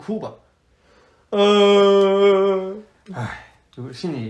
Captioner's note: cries more